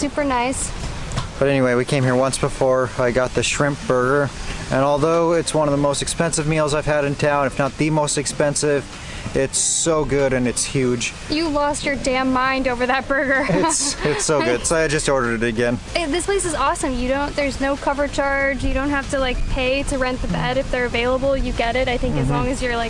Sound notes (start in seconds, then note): 13.4 laughter